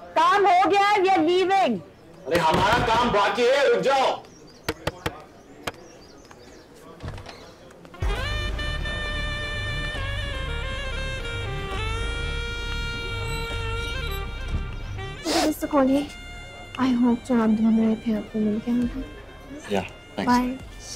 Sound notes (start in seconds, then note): 4.7 Knocks on door; 7.0 Door opens